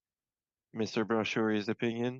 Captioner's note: speaking French